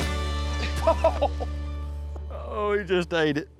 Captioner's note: chuckling